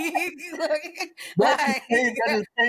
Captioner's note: laughter